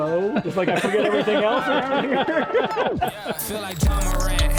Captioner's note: laughing